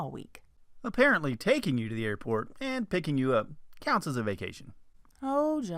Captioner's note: man's voice